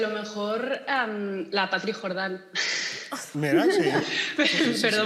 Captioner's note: laughs